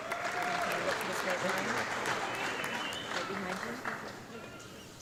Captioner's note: audience clapping